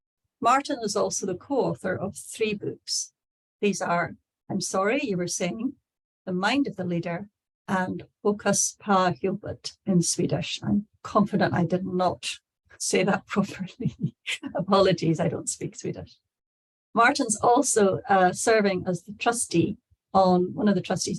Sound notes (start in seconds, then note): 9.8 in Swedish